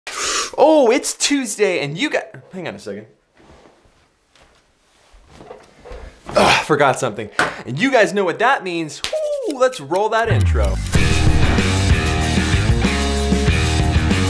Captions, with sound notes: - Oh, it's Tuesday, and you guy, hang on a second. (gasps) Forgot something. And you guys know what that means, woo! (rapidly rubs hands) Let's roll that intro. (energetic rock music)